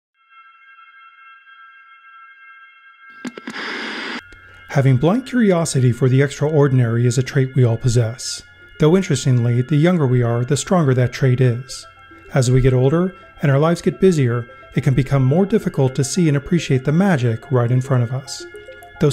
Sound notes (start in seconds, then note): 0.3 piano music; 3.2 television static buzzing